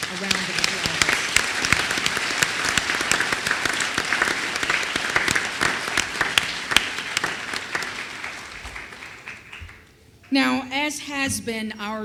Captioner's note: applause